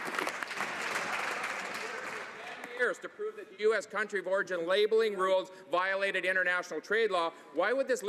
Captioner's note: some Applause